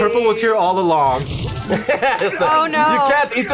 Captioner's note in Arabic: يضحك